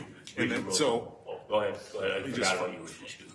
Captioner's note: speaking faintly